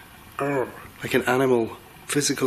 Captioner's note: mimics animal growling